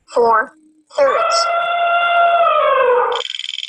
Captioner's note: voiceover; elephant trumpeting; wheel clicking